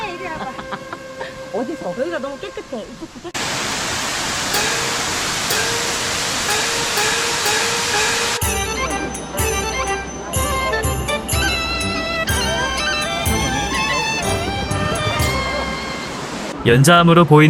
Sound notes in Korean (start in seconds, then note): 11.1 종소리